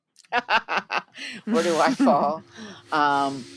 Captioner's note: laughs